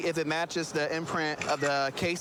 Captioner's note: camera app clicks